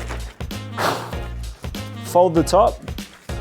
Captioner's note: bag ruffling; fast exhale